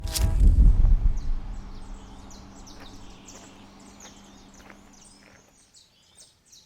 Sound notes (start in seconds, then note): 0.4 birds chirping; 3.9 gentle footsteps on gravel